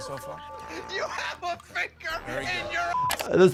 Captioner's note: beep